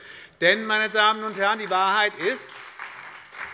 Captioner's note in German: Beifall bei der SPD